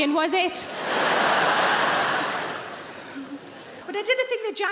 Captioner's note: audience laughing